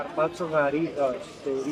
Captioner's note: people chattering